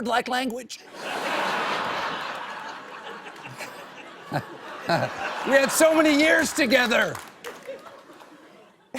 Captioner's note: laughter